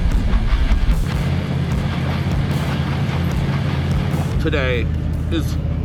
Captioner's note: upbeat rock music continues; engine rumbling continues